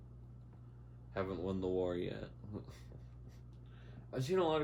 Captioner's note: laughs